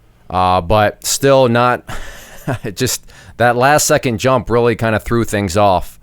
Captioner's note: laughing